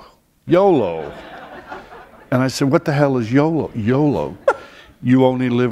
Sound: laughter

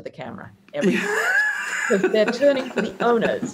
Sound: laughs

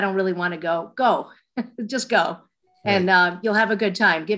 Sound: laughs

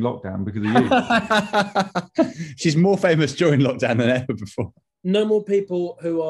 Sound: laughing

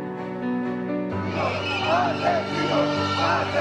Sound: chanting

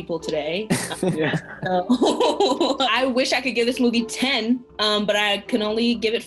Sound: all chuckle

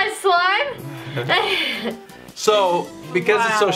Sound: laughter

